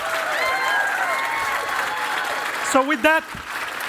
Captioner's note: cheering and applause